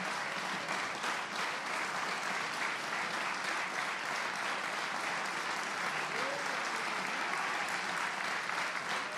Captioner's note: applause